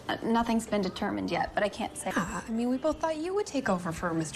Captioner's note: none